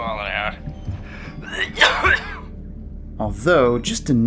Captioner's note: coughs